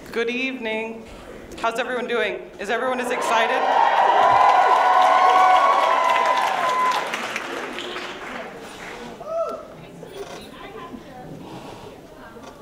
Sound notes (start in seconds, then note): 3.1 cheers and applause